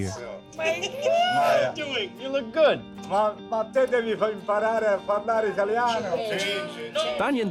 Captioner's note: speaking Italian